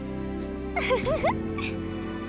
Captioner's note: giggle